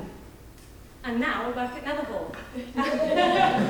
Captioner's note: laughs; audience laughing